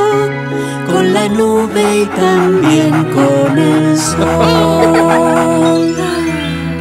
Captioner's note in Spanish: Risas